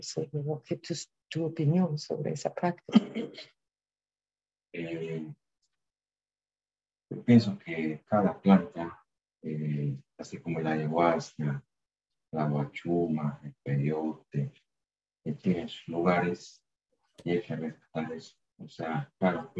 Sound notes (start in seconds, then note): 12.4 speaking in spanish